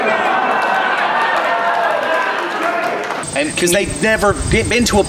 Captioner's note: crowd applauding; crowd cheering